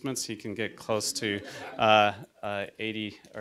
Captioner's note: audience laughter